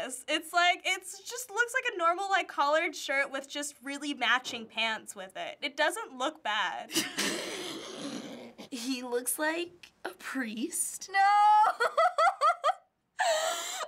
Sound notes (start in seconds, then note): 7.5 snorting; 11.6 giggling